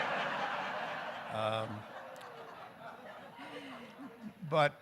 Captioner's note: audience laughing